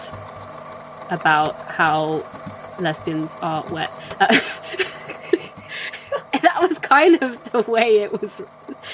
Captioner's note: laughs